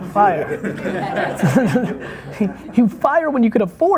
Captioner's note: laughing